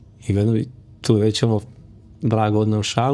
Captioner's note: none